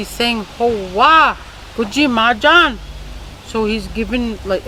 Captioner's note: speaking in a foreign language